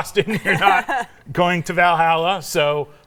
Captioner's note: laughs